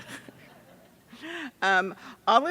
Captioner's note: attendees laughing